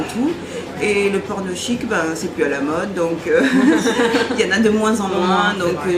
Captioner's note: laughs